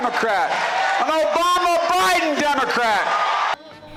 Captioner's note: cheering and applause